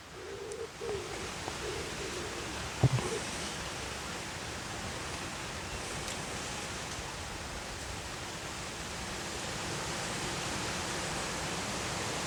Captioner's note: breeze